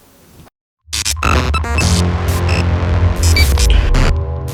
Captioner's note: electrical humming